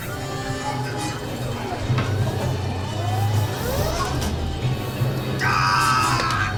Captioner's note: screams